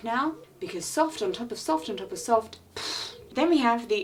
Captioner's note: vibrates lips